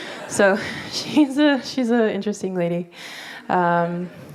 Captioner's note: laughter